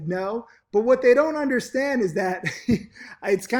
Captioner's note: chuckles